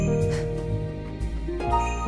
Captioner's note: quickened breath